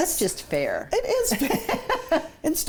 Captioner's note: laughs